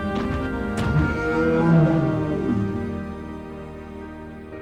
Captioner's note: bellowing